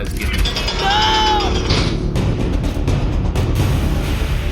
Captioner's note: the door clangs shut